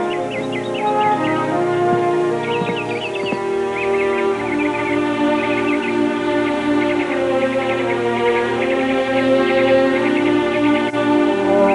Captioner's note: birds chirping